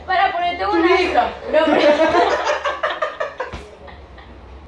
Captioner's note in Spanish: Risas